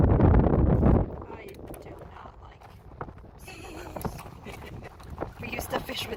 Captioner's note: laughs at my silliness